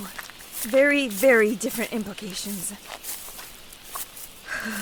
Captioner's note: shivers